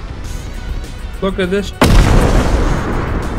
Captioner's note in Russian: Взрыв